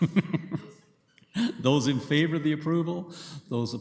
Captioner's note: chuckles